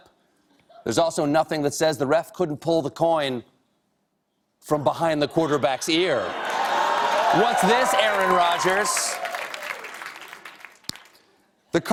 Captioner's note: cheers and applause